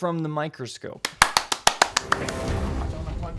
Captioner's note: claps; dramatic music